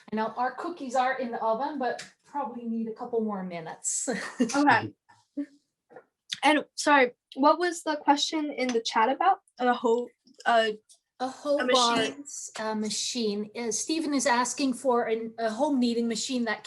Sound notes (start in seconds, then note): 4.2 laughs